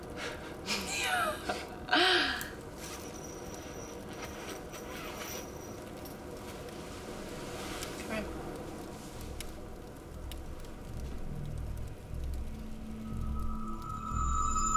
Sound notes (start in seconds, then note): 0.8 both laugh; 3.4 unzipping sleeping bag